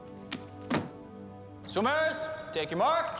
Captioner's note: book thuds